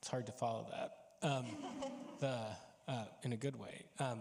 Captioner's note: panelists chuckling